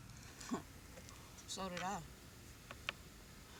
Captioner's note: scoffing